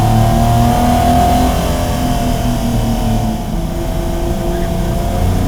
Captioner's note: car revving continues